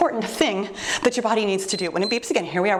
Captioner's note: timer beeps